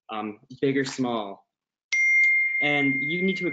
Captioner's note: dings